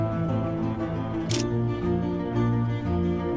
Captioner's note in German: Klicken